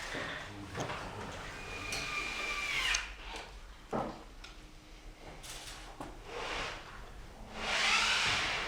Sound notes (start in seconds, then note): 1.6 distant drilling sounds